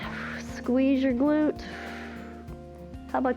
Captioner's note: exhales